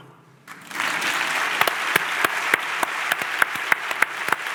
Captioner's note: audience applauds